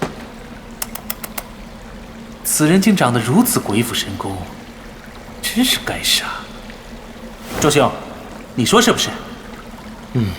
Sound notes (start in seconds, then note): 2.9 tsk